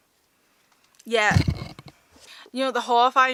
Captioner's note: tripod rattling